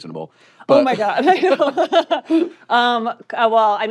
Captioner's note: chuckles